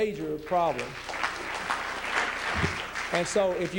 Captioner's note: applause